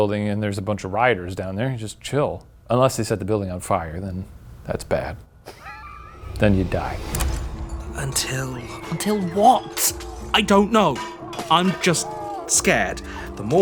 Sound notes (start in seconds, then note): 5.4 laughs